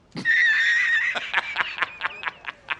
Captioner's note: uncontrollable laughter